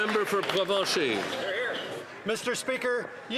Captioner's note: applause